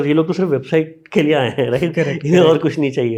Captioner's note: speaks in Hindi